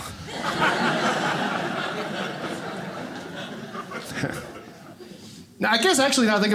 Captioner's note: audience laughing